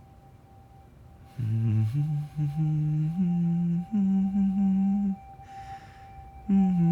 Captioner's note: Benson humming "O Christmas Tree"